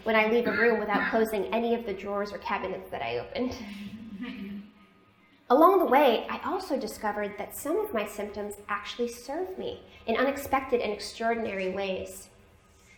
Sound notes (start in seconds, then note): 3.6 laughter